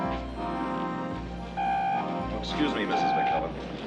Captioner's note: walkie-talkie buzzing